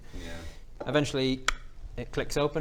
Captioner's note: clk